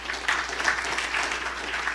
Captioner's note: applause